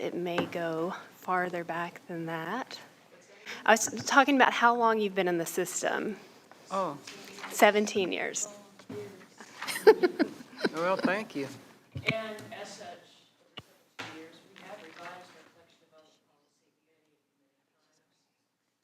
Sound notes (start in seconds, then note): 7.2 quietly; 9.4 board members laughing; 12.8 quietly; 17.8 others whispering